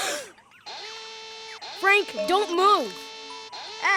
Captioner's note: alarm blaring